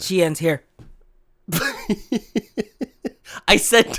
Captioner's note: laughs